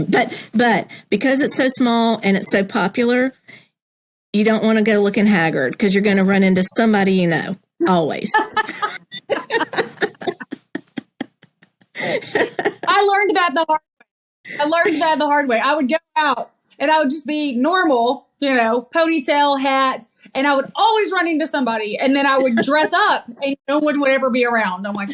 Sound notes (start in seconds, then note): 8.3 laugh